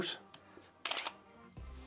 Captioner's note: camera Motor Noise